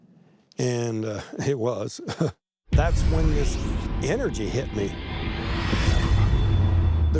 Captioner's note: chuckles